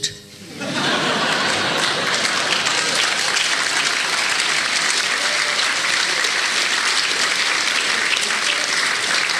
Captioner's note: laughter